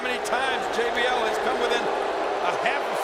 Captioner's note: crowd boos